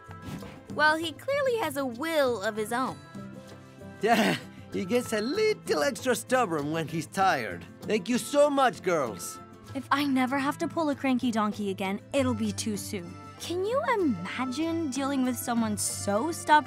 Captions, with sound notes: Well, he clearly has a will of his own. Yeah. [laughs] He gets a little extra stubborn when he's tired. Thank you so much, girls. If I never have to pull a cranky donkey again, it'll be too soon. Can you imagine dealing with someone so stubborn